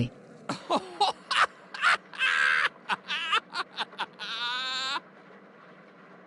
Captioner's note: laughing So Hard